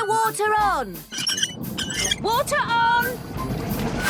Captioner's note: wheel squeaking